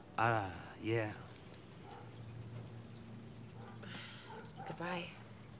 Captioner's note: dog barking